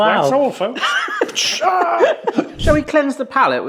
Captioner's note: hisses